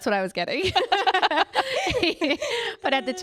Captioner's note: both laughing